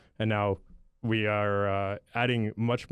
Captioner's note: none